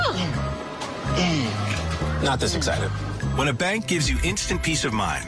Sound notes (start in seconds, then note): 1.1 grunting